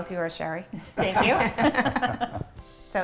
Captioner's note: laughing